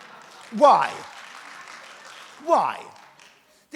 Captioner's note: audience laughs; audience applauds